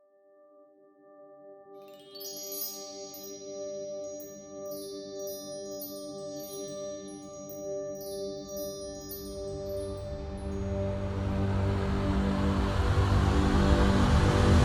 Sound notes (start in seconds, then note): 2.1 chimes; 10.0 epic music